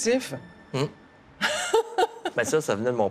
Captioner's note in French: rires